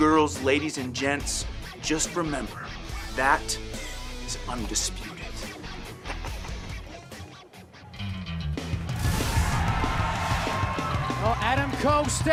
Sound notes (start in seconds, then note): 5.8 laughter; 10.6 cheers and applause